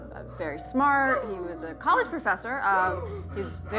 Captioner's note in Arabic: كريكت يلهث